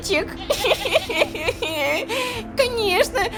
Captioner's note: cries